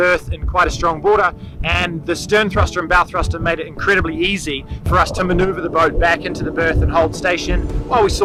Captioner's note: wind